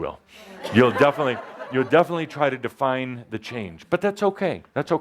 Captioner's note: laughter